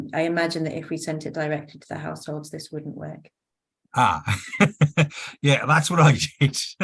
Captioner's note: laughs